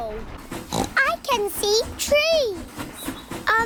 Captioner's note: oinks